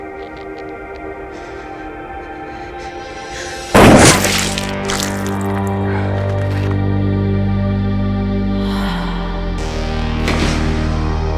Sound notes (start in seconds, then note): 3.7 gun fires; 6.1 slow synth music